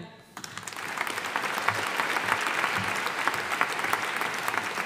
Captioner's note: audience applauding